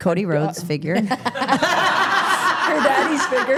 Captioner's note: everyone laughing